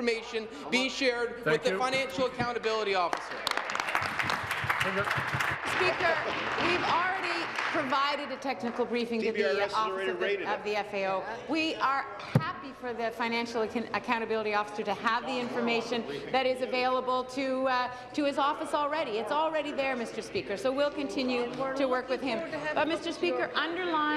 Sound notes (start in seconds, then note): 6.7 applause